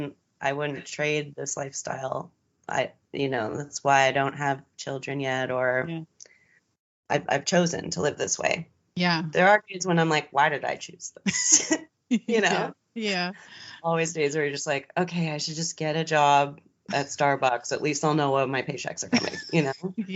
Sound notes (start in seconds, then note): 12.2 giggles; 19.1 laughs